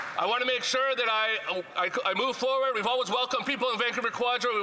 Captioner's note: some Applause